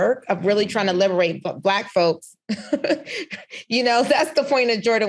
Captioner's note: laughs